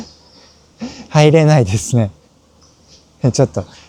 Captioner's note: laughs